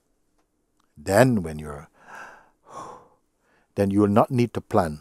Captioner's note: deep inhale and exhale